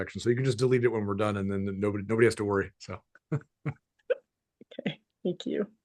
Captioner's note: chuckles